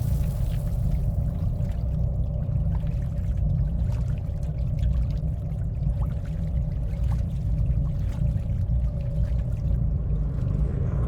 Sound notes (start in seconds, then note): 1.3 dark, menacing music; 1.3 water burbling